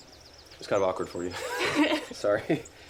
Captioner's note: Ara laughs